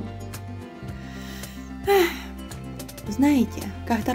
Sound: tired sigh

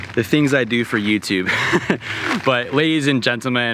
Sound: laughs

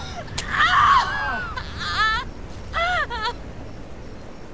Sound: Veronica screaming

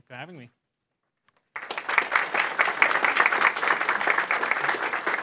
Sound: audience applauding

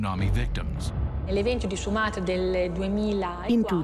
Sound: non-english speech

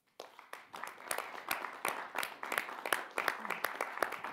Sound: audience clapping

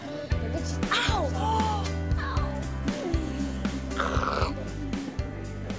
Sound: shrieks

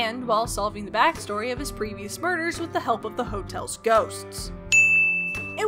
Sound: ding, Ghosts

